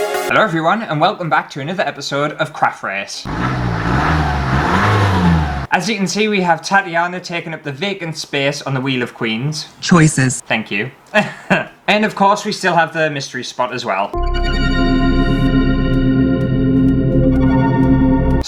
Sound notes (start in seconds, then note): 3.2 car Revs; 14.2 sci-fi Music